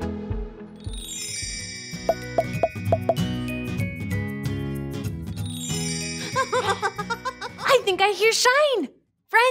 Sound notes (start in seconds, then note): 0.6 bright music; 6.4 Shine giggling